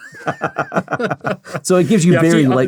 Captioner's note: both laughing